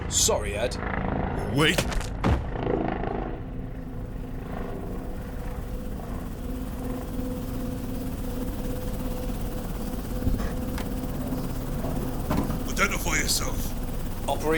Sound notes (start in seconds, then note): 5.4 helicopter lands